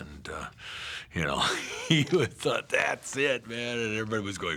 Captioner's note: laughing